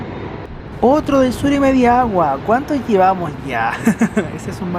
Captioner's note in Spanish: risas